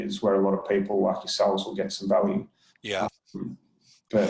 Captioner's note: murmurs